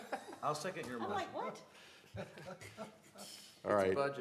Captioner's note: laughter